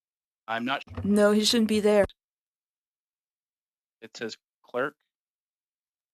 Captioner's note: speaking French